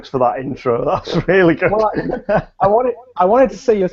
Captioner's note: laughs